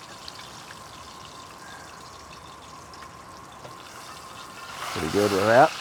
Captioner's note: sizzling